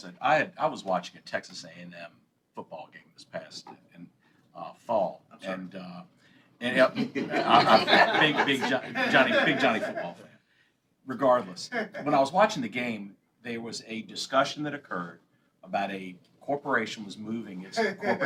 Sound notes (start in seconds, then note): 4.8 laughter